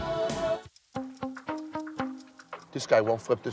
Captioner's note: dramatic music playing; timer ticking